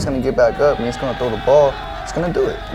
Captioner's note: team cheers